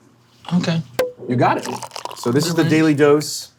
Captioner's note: cork popping